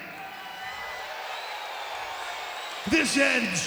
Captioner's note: audience cheers